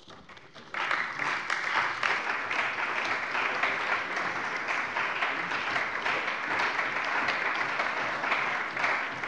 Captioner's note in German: Beifall bei der CDU und dem BÜNDNIS 90/DIE GRÜNEN